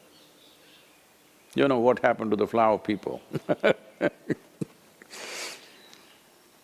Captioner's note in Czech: smích